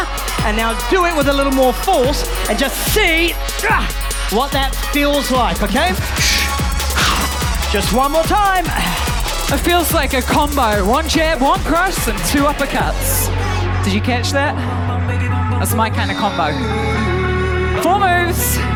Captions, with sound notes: And now do it with a little more force and just see - ah! - what that feels like, OK? (EXHALES FORCEFULLY) Just one more time. It feels like a combo. One jab, one cross and two uppercuts. Did you catch that? That's my kind of combo. Four moves.